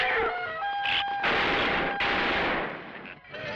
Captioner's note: gunshots